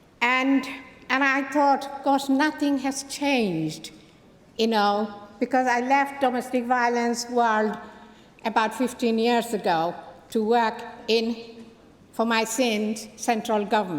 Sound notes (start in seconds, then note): none